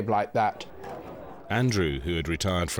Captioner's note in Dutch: achtergrond gedempt spreken